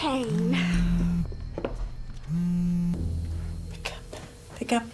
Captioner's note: cellphone vibrating